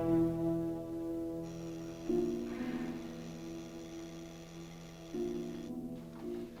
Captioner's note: ominous music; buzzing sound